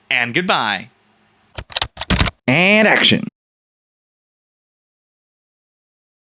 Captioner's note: typing